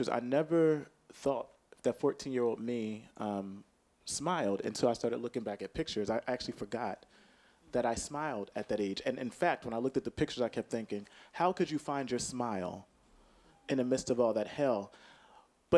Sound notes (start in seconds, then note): none